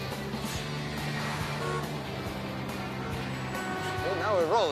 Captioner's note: car horn honks